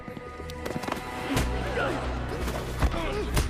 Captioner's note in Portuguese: multidão engole em seco